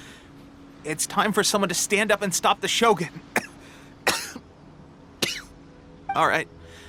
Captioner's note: cough